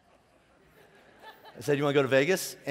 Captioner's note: laughing